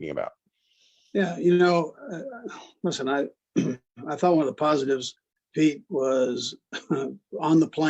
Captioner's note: cough